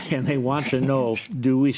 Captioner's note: panelist chuckles; chuckles